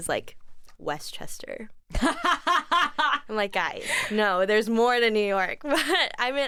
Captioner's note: laughs